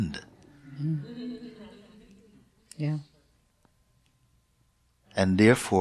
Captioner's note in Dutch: gelach